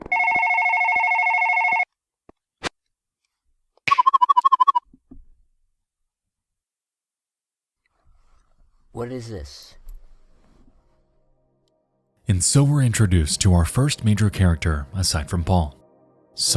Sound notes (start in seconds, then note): 0.0 phone ringing continues; 3.7 warbling sound